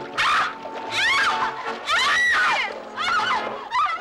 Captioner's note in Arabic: غلاديس تصرخ